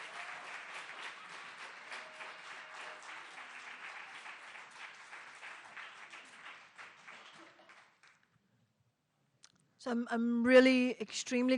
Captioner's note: applause